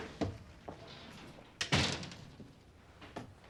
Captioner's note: shutting door